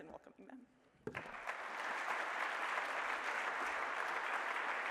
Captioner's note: applause